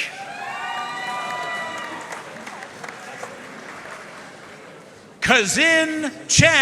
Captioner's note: audience cheering and applauding